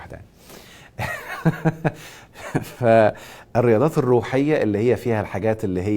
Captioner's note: laughs!